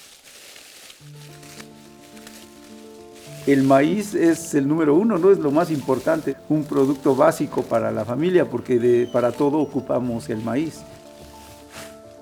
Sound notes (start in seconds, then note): 1.5 leaves whirring; 3.6 gentle music